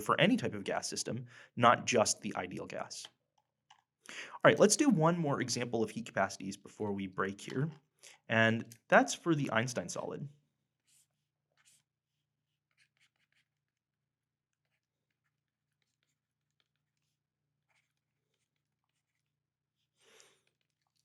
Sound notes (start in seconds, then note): 11.5 pen scratches